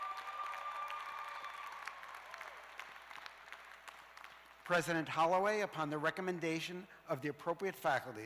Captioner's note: cheers and applause